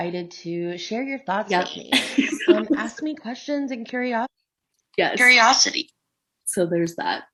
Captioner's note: chuckles